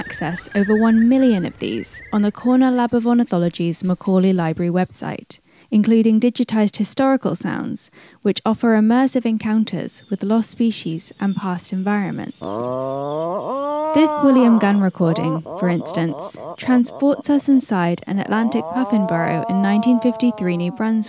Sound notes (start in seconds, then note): 12.3 Sounds of Atlantic Puffins play: Macaulay Library catalog number 62361